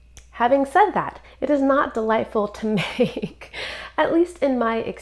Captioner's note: chuckles